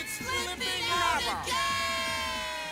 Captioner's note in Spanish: sorprendida